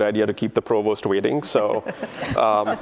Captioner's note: laughter